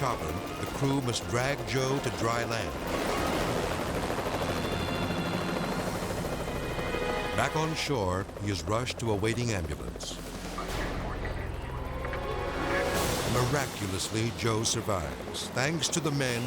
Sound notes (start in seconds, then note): 3.8 propellers humming; 10.7 siren wailing